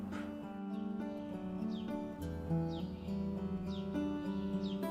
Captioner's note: birds sing